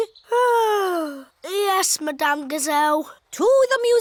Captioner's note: yawns